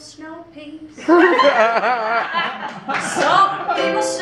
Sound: laughter

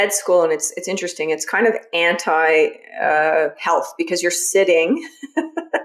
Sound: laughs

